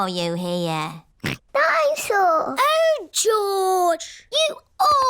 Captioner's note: snorts